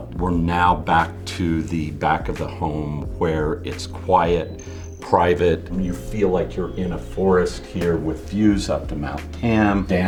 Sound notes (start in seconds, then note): 4.8 birds chirping